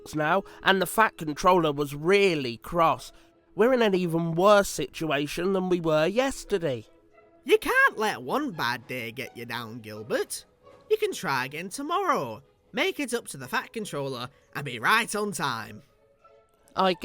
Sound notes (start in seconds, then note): none